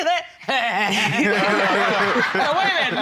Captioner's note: imitates chuckling; all laughing